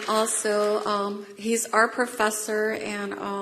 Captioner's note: applause